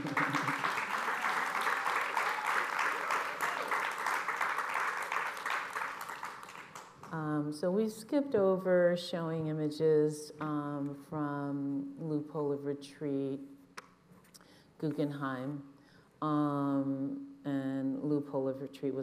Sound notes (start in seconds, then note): 8.1 applause